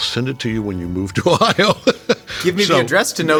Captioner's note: J.K. laughing